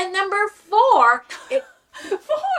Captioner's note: laughing